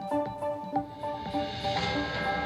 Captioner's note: news reporter faintly speaking; device beeping; clock chiming